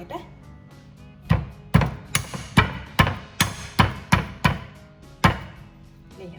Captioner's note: crushing sound